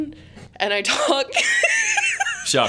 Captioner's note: laughing